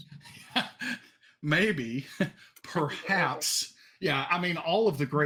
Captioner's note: laughs